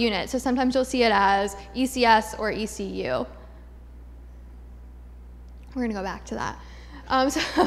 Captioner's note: laughter